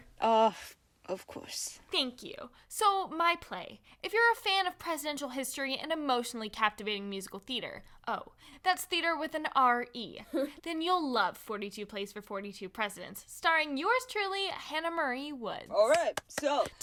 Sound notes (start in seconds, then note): 9.7 Tom laughs at her; 15.8 clapping